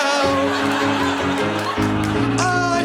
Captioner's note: laughter